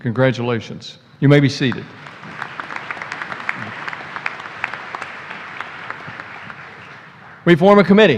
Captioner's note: applause